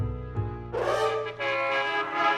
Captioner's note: horns honk angrily